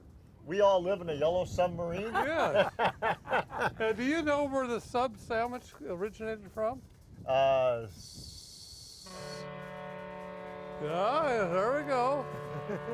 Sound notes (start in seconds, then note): 2.0 men laugh; 9.0 ship horn honks